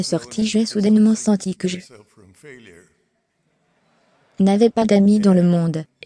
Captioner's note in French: L'audience rit